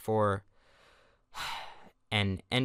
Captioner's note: disappointed sigh